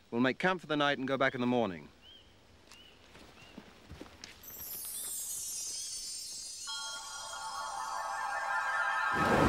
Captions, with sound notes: We'll make camp for the night and go back in the morning. (chimes)